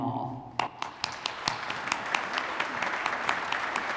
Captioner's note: applause